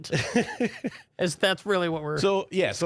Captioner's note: laughs